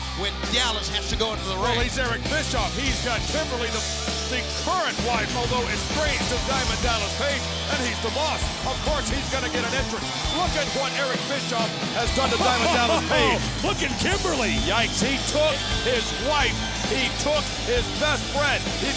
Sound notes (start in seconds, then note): 12.1 laughs